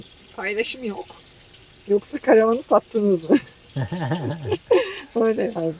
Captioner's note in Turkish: kahkaha